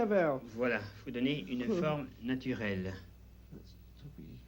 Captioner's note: both conversing in French